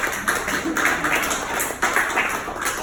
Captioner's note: audience applauds